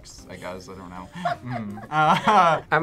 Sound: React laughs

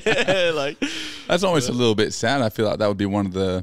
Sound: laughing

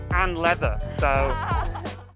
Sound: laughing

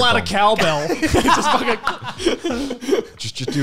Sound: laughing

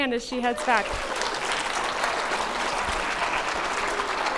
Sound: applause

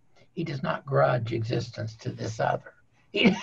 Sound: laughing

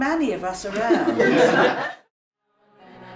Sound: laughter

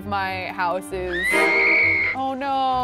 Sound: screaming

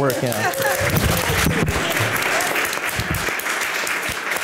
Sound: audience applause

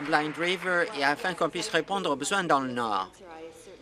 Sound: applause

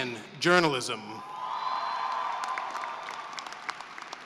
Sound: cheering and applause

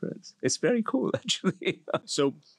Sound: laugh

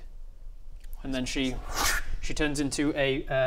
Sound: wrssh

